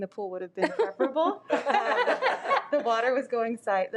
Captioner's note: audience laughs